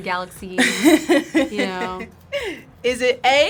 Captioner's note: React laughs